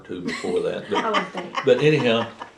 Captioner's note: laughter